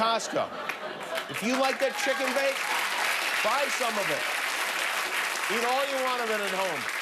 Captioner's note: cheers and applause